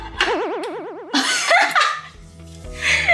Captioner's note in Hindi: हंसते हुए